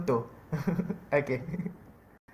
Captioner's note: nervous giggles